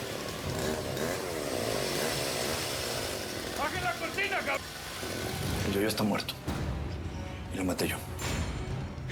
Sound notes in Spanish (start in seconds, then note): 0.0 sonido de la sierra